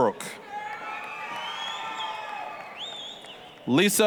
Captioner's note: applause, cheering